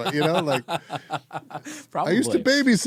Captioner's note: laughing